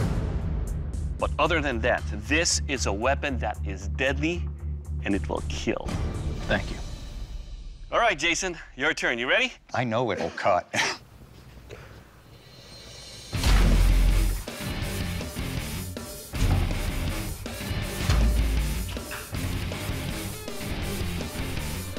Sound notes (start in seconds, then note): 10.1 laughs